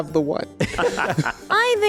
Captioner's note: laughing